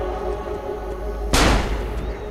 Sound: gunshot

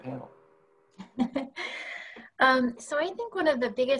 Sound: laughter

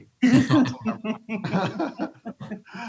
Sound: laughs

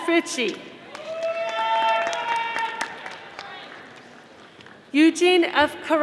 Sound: audience applauding

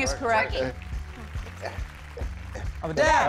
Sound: grunting rhythmically

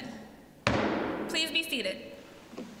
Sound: sounding gavel

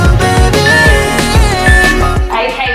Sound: workout timer beeping

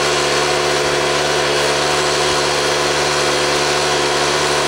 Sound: machines roaring

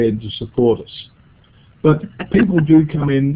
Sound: chuckles

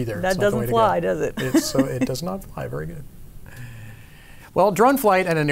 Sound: laughs

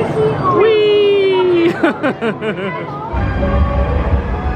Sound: chuckles

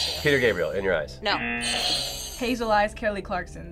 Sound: audio buzzes

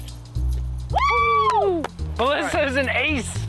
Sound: cheering

